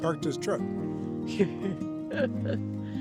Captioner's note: laughing